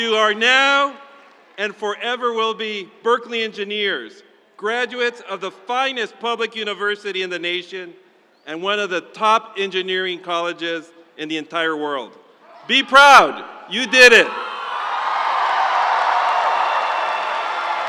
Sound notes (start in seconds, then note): 14.1 crowd cheering